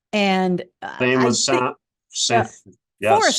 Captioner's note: overlapping chatter